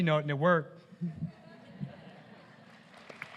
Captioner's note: applause